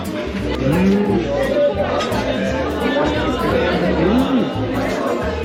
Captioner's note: laughing